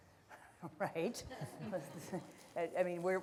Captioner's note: audience laughter